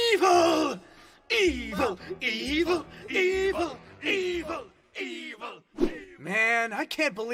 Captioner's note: chanting